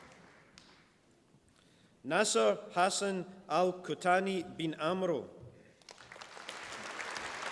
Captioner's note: applause